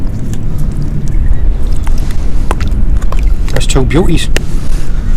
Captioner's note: clam splashing